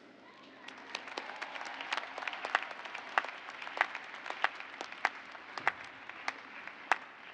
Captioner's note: cheers and applause